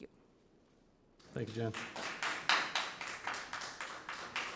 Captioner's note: members clap